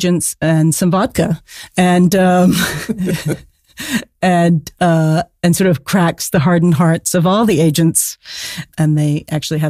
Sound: laughs

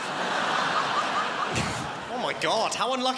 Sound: crowd laughs

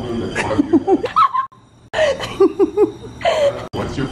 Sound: laughing

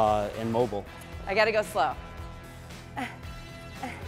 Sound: grunts

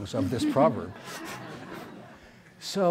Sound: audience laughs

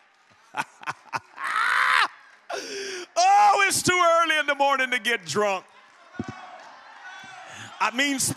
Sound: laughing

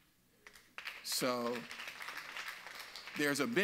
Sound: audience applauds

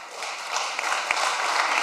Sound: applause

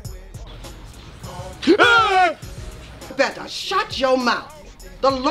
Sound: screams

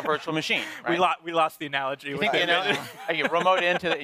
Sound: laughing

